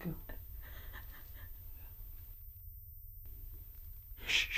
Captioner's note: muffled crying